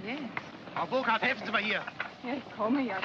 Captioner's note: speaking angrily in German; speaking in German